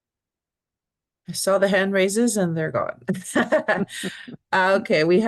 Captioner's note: laughs